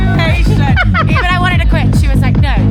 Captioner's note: laughs